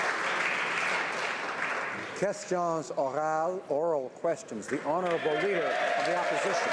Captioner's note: some Applause